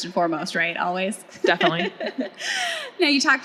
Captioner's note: laughs